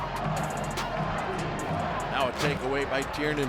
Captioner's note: audience chanting